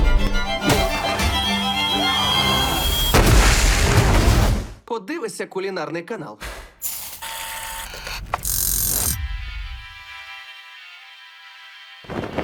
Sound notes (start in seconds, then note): 1.5 man 3 screams; 1.6 yells; 6.8 timer buzzes; 9.3 calming music playing; 10.3 man on TV